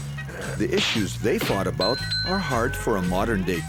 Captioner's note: thumping; dinging